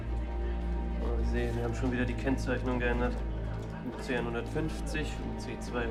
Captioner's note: speaking in foreign language